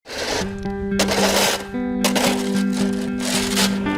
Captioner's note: shovel scraping